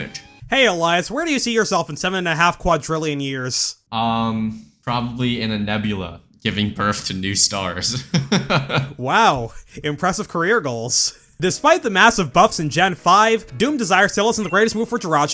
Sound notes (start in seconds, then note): 7.9 laughs